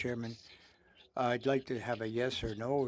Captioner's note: speaking French